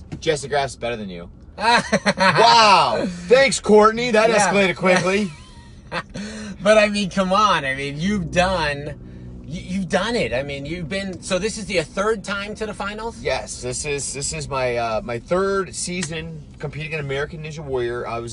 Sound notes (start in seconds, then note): 1.5 laughs; 4.3 laughs